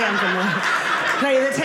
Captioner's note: audience laughing